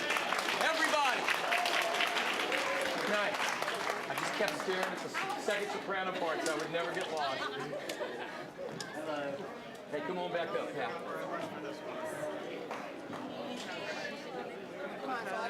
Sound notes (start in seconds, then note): 0.0 applause; 7.0 scattered laughing; 8.5 general chatter; 12.4 general chatter